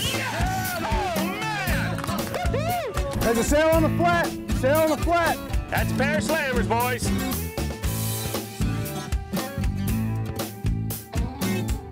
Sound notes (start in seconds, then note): 1.3 clapping; 1.9 cheering